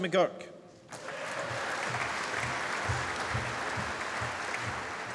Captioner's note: applause